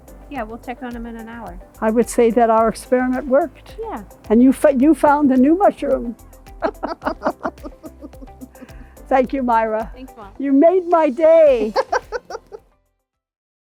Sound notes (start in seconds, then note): 6.6 laughing; 11.5 laughing